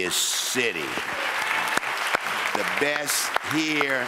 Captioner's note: audience applauds